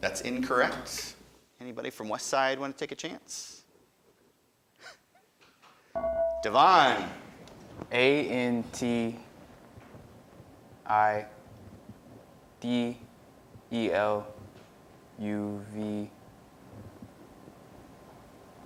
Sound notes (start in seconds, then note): 6.2 buzzer dinging